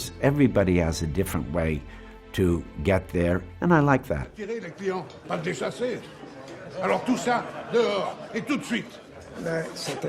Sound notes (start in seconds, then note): 4.5 speaking in foreign language